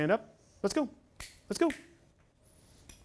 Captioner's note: snaps fingers